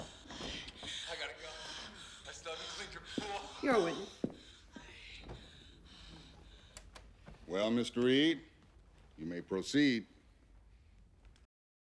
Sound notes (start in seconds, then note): 3.6 panting On Tape